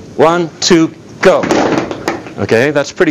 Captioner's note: feet stomp